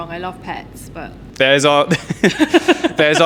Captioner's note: evil chuckle